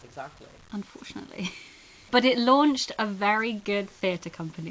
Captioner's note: laughs